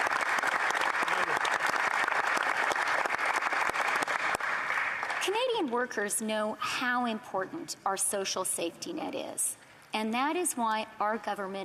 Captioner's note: applause